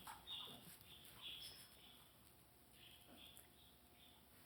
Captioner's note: birds chirping